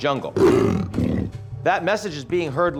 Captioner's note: jaguar snarls